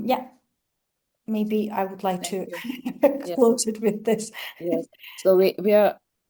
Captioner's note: laughs